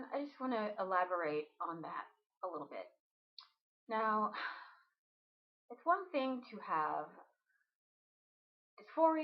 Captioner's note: sigh